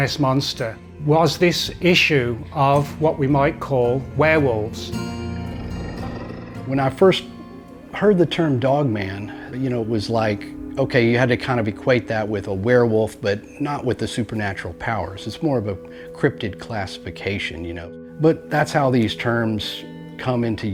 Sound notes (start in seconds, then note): 4.2 mellow haunting music; 4.8 animal growling